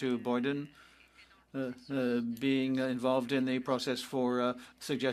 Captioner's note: speaking French